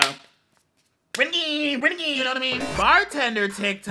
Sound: exclaims

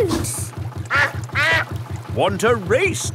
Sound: quacks

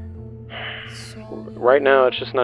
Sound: deep breath

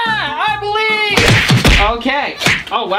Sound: loud smacks

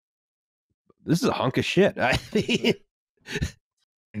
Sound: laughs

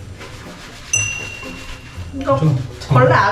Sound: rubbing

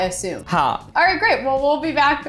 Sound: speaking in Hindi

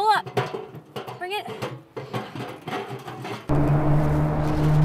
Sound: metal clattering

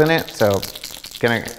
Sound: bait rattling

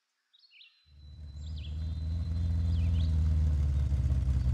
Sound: engine idling

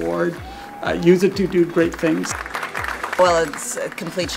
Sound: applause

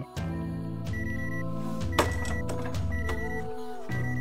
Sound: alarm beeping

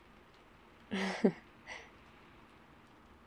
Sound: laughs

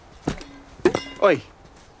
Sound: bottle hits the ground

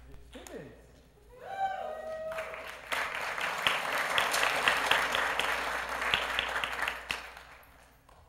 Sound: applause

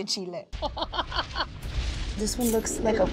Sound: laughing

